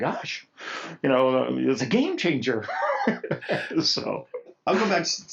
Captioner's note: laughs